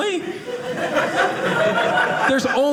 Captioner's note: audience laughing